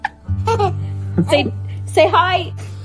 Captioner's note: laughing